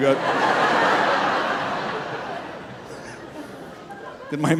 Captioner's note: audience laughing